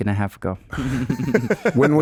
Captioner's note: laughing